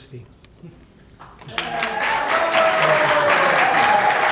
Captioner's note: applause